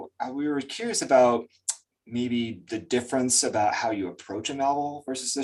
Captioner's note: lip smack